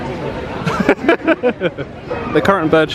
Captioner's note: laughs